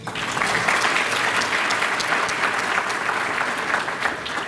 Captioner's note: applause